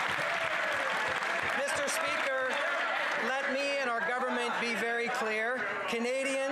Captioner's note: some Applause